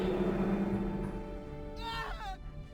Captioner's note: dramatic music; yelling; dramatic music